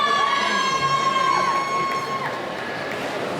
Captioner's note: cheering